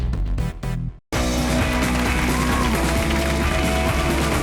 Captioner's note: applause